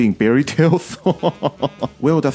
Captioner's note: laughs